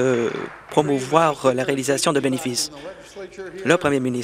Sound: applause

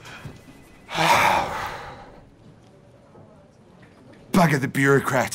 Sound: sighs

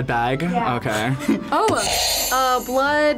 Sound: buzzer rings

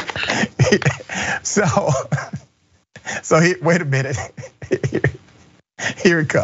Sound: laugh

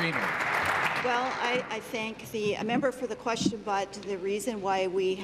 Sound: applause

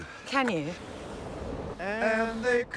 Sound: air whooshing

